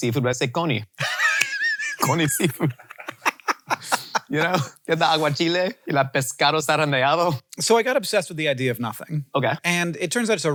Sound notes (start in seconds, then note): 1.0 laughing; 6.0 speaking in Spanish